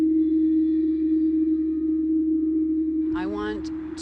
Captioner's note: humming